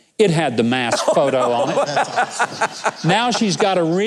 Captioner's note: laughs